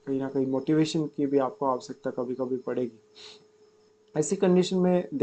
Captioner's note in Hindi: नाक से की जाने वाली आवाज़